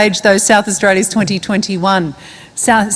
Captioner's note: none